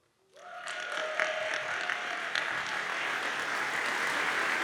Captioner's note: audience applauds